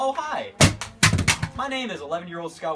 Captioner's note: phone crashes to floor